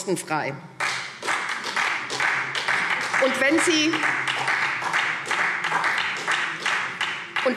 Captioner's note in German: Beifall